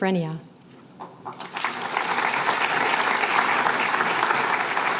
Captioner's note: applause